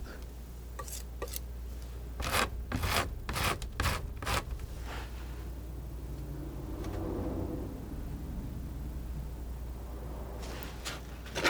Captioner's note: scratching